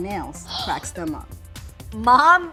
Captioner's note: gasp